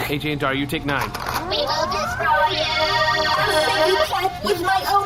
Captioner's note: 60 and 9 begin charging blasters